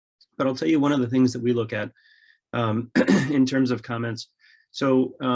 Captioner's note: clears throat